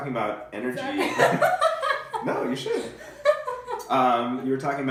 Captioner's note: laughing